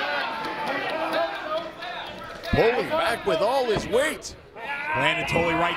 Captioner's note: applause